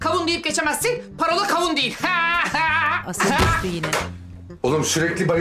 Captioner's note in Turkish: Devrilme sesi